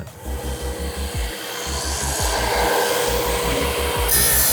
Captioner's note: engine whirring